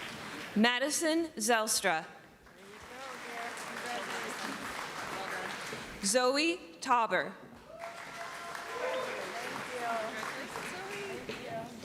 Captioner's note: applause; applause